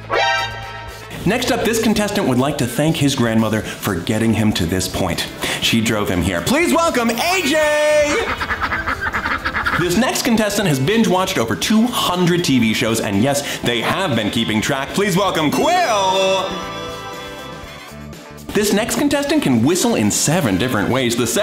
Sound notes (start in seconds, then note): 0.0 dramatic orchestra chord; 8.3 geese honking softly